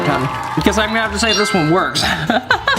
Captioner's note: laughs